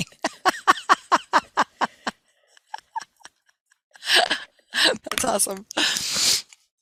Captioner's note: laughing